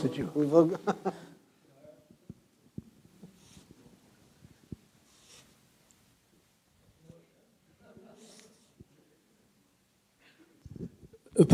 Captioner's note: silence